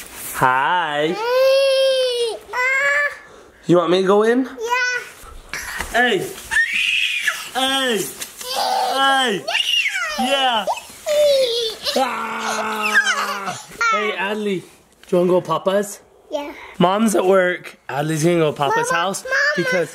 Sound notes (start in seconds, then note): 1.1 babbles; 6.5 screams; 8.2 laughs